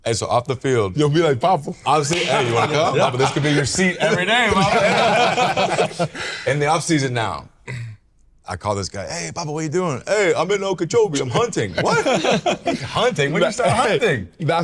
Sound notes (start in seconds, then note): 4.8 all laughing